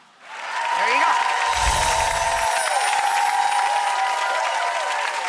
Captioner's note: audience applauding